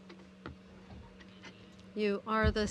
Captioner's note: speaking in french